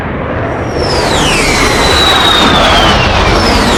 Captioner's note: engine whistling